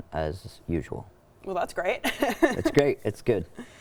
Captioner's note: chuckles